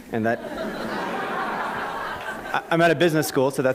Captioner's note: laughter